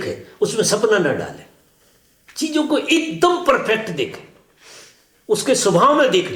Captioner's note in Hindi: नाक से की जाने वाली आवाज़